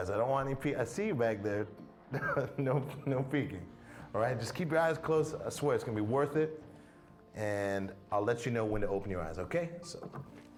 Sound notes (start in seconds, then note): 2.1 Riéndose